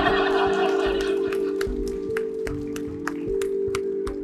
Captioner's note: applause